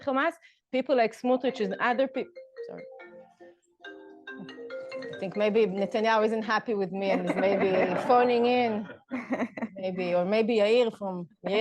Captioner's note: phone rings